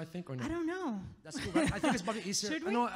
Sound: laughs

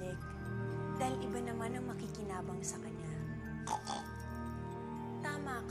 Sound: snorts

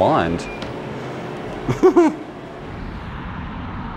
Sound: laughs

